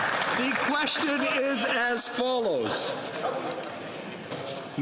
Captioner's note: some Applause